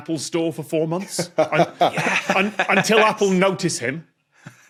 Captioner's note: laughs